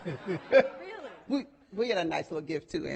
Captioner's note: laughing